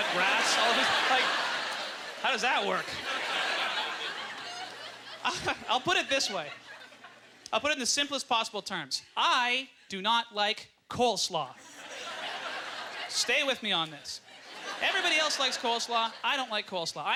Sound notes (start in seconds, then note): 3.7 audience ughter; 5.3 audience laughter; 11.6 audience chuckles